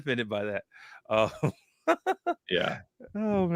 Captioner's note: laughs